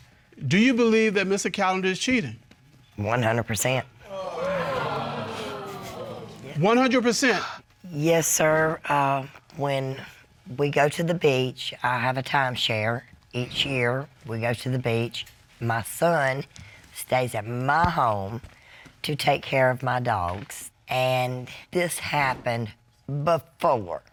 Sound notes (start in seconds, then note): 4.0 audience exclaim